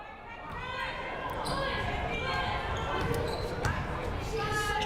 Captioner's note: crowd murmuring